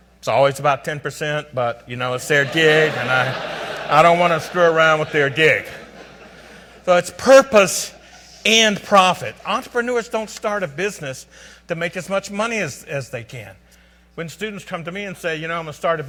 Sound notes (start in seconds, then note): 2.2 audience laughs